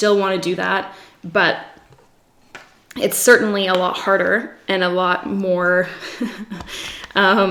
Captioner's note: giggles